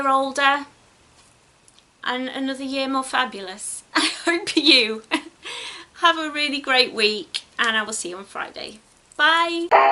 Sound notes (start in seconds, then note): 5.1 giggles